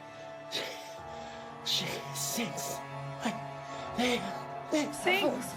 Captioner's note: panting